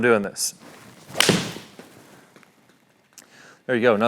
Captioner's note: golf club hits golf ball